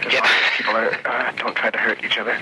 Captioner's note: man laughing